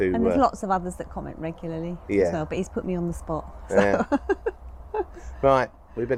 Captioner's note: laughs